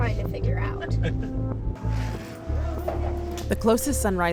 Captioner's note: people laughing